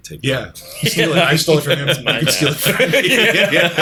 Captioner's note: laughter